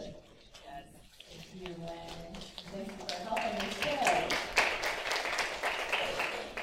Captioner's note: applause